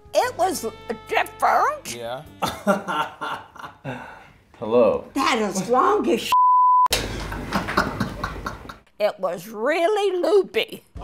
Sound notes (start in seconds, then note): 2.4 client laughing; 6.3 beep; 7.0 client laughing